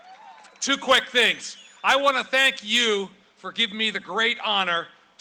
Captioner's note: cheering and applause